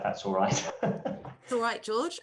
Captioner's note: laughing